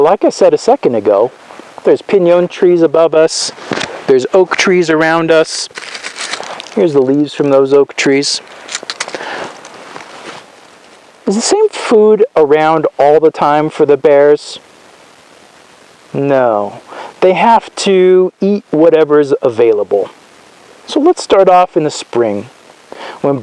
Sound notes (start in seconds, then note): 6.1 leaves crunch